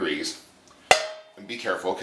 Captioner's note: oil pops